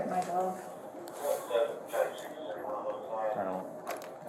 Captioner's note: radio chatter